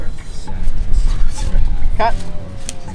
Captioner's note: laughs